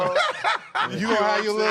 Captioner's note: laughter